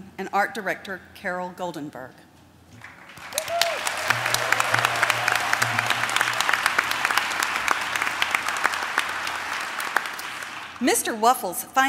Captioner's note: applause